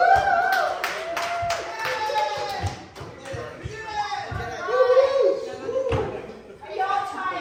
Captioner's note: applause/Cheering